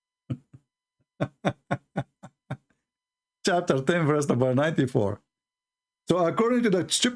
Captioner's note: Ketawa